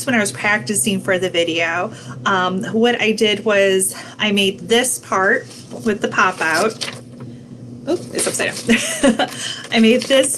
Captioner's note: laughing